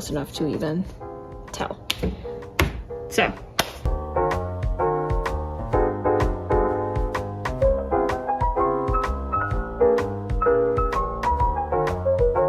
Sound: clap

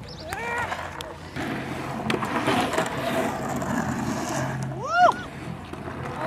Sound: skateboard on pavement

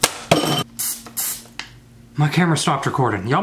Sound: dishes clatter

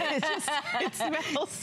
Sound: laughter

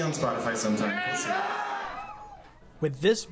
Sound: crowd cheering

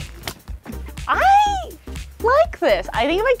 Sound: laughs

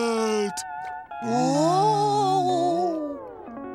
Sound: moaning

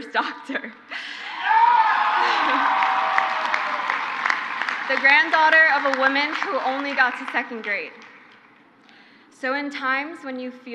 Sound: crowd cheers; crowd applauds

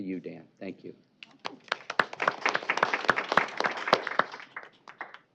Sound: applause

